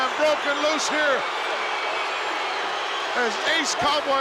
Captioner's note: crowd boos